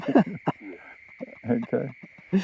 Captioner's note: both laughing